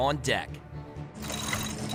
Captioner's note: rigging grates